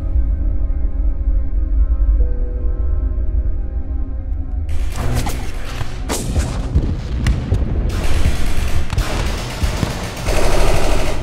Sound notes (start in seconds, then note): 0.1 suspenseful music; 5.1 gunshots hissing faintly; 7.8 machine gun fire rattling